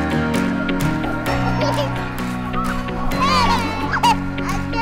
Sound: giggling and laughing

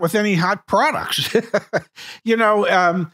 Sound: chuckling

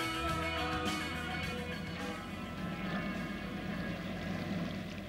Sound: water splashing

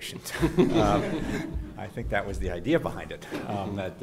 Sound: background laughter

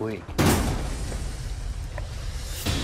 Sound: gunshot

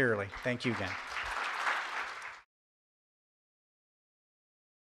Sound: audience applauds

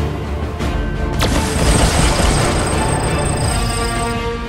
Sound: firing rockets and lasers

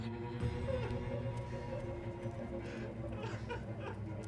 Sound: sobbing

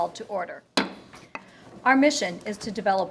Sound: gavel bangs

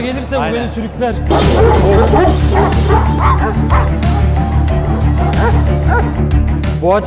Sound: dog barking

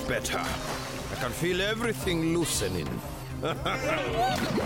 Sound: chuckling; Bongalalas cheering

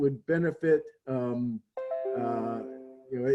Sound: chime

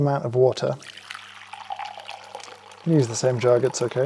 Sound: water pouring

